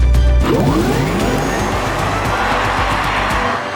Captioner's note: electric motor sound